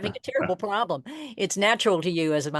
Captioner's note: laughs